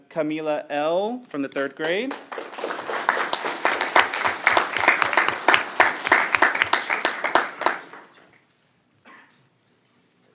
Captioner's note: applause